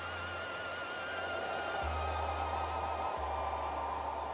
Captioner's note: wind whistles